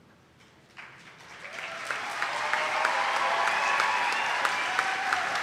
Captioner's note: attendees applauding